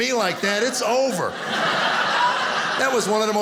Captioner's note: audience laughing